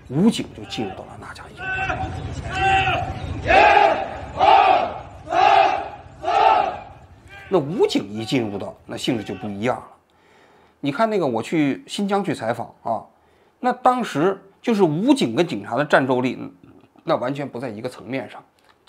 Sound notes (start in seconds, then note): 3.3 PAP army chanting